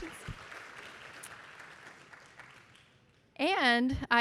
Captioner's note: audience applauding